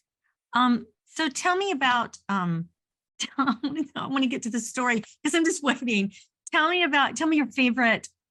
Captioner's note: chuckles